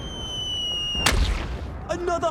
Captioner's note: whistling